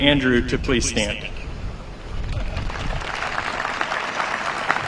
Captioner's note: applause